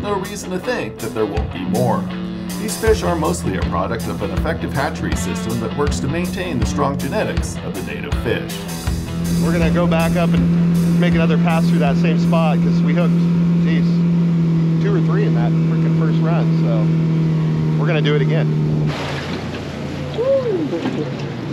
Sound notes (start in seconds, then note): 10.1 boat engine running; 19.3 boat engine idling